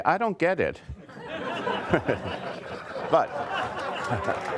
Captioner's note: audience laughter